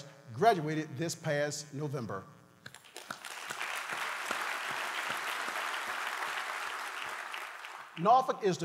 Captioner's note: applause